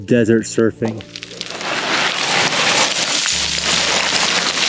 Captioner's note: gravel rattling